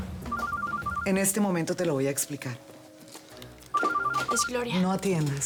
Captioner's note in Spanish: Suena el celular